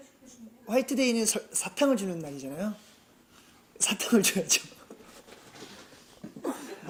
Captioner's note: laughs